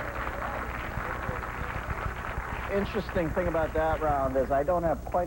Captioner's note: applause